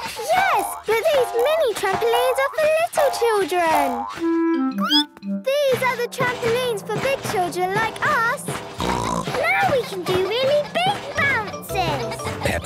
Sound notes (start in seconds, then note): 4.6 squeaks; 8.7 snorts